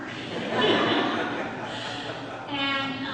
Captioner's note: audience laughs